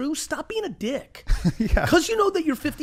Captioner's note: laughs